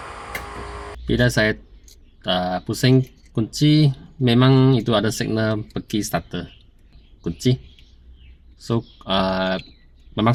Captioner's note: electric current